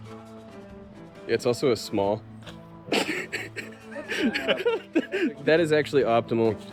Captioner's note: laughs